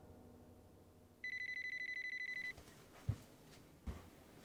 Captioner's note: phone ringing